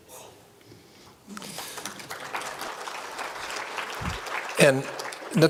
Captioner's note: applause